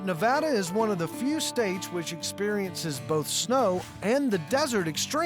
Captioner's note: none